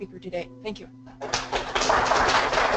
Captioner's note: applause